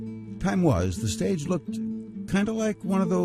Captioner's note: voiceover